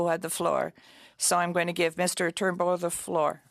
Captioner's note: speaking French